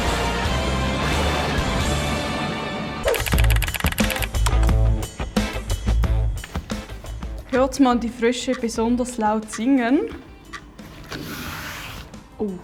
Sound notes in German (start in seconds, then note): 0.1 krachender Donner; 3.1 tippen einer Schreibmaschine